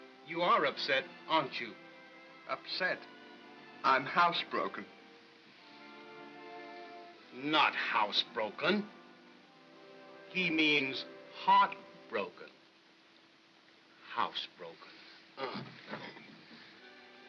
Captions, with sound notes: You are upset, aren't you? - Upset? I'm house broken. - Not house broken! He means heart broken. House broken...(scoffs)